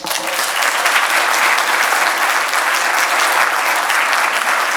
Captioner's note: audience applauds